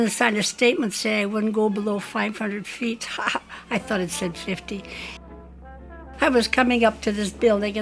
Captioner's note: laughs